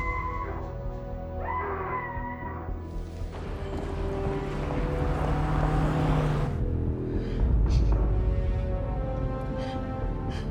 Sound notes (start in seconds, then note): 3.4 car engine whirring; 6.4 sobbing